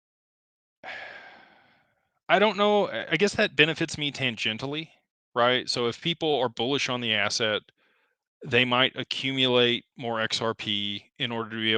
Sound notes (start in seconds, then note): 0.8 sighs and gasps